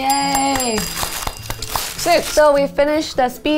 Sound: bell ringing

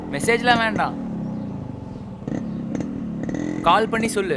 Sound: bike noise

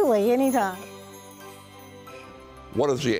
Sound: transition chiming

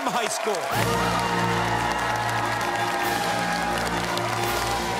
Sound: cheers and applause

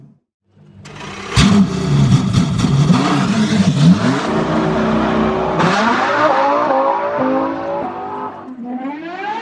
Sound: vroom Vroom

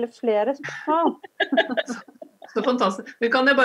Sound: laughter

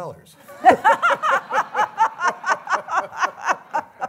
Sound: audience laughter

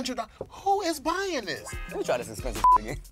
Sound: beep

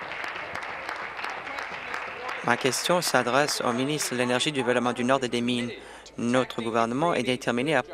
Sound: applause

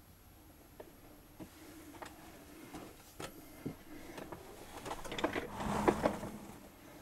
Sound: chair creaking, movement

